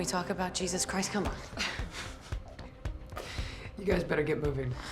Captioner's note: laughs